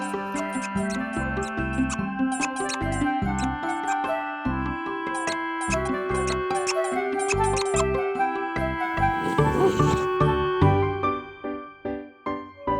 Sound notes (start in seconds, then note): 0.1 chew toy squeaking; 4.5 playful music; 8.9 Hank groans